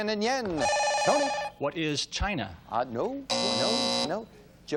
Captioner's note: beep